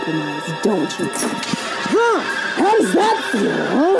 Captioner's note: dramatic music; Reese grunts